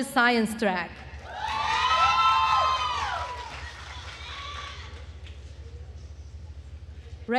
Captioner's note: attendees cheering and applauding